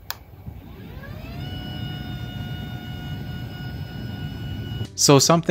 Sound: desk motor whirring

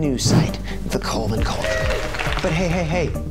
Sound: cheering

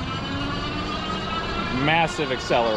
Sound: bicycle motor whooshing

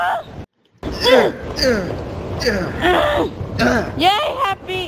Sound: Lucina & Marth's Bodies, Grunting Sounds

